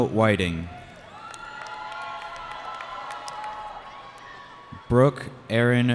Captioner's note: cheering